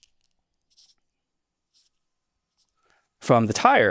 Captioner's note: pen scratching